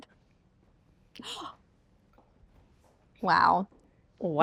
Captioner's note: gasps